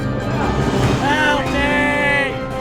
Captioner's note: Tubal yells